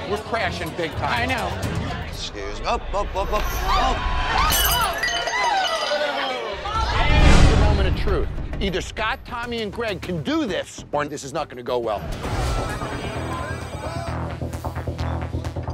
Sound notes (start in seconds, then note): 3.8 woman screaming; 4.4 glass crashing